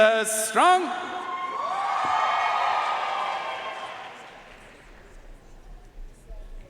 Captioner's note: audience cheering and applauding